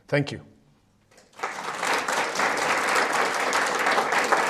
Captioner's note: applause